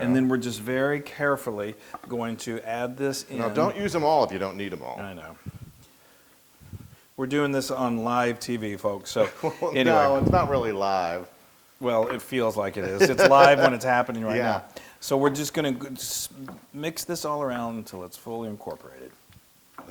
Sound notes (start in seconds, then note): 9.2 laugh; 12.8 laugh